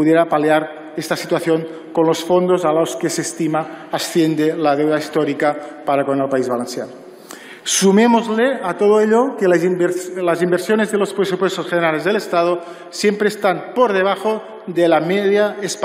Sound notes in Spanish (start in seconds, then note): none